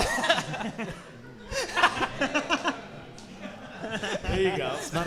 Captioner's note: audience and hosts laughing